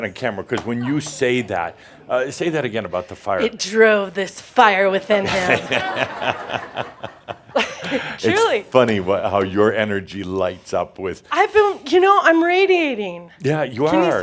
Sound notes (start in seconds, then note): 5.2 laughter